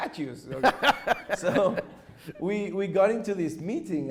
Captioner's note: chuckles